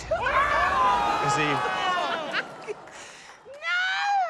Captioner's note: music stops; chuckles